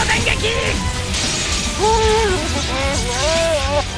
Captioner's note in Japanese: 魔物のうめき声